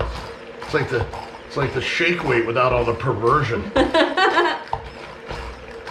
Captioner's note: laughing